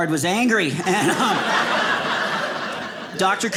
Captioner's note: audience laughing